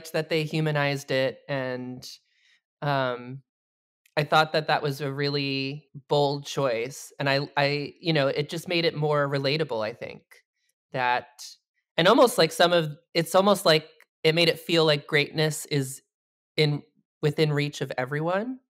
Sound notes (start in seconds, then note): none